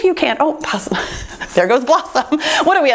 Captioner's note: chuckles